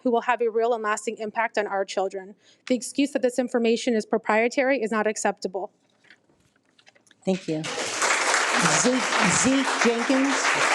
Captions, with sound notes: who will have a real and lasting impact on our children. The excuse that this information is proprietary is not acceptable. - Thank you. (people applauding) Zeke Jenkins.